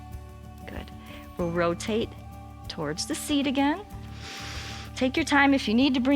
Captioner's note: inhales